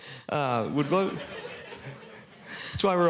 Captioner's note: laughter